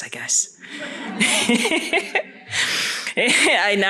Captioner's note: laughter